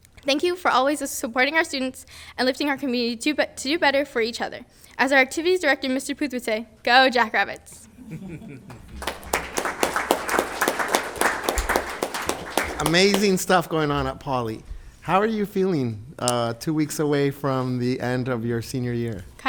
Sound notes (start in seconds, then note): 7.9 group laughs; 8.6 group clapping